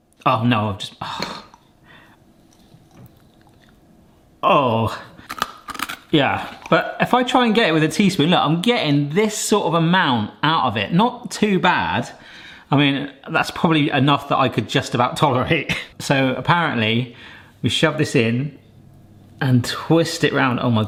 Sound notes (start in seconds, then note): 1.0 sighs; 5.2 breadstick crunching